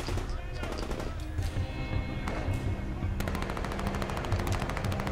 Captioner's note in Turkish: Silah sesleri